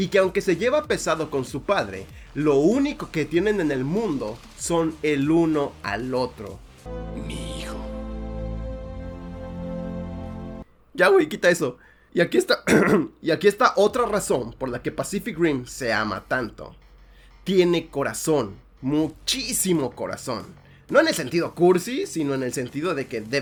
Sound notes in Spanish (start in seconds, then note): 12.6 carraspeo